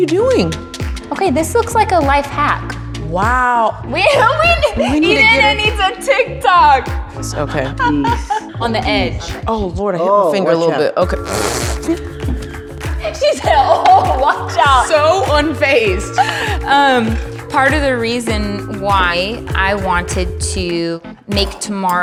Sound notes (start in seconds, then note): 11.1 blowing raspberry